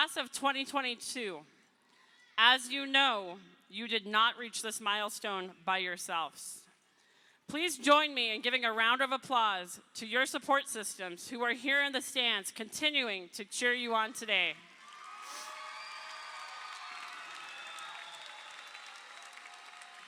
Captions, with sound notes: Class of 2022, as you know, you did not reach this milestone by yourselves. Please join me in giving a round of applause to your support systems who are here in the stands continuing to cheer you on today. (crowd applauding)